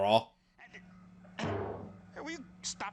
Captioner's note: clonk